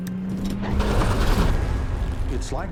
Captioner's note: gears engaging